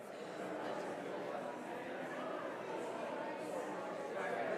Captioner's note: congregation chatters